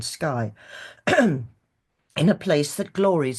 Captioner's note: clears throat